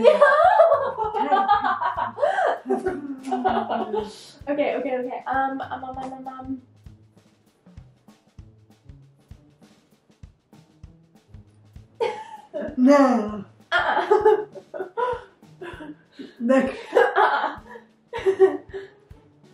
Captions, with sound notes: yeah-huh! *laughing* okay okay okay, ummm um um um um *laughs* uh uh. *laughing* uh-uh *giggling*